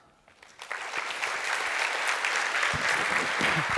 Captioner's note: applause